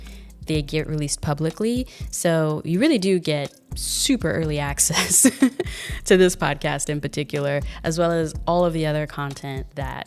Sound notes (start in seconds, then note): 4.9 chuckles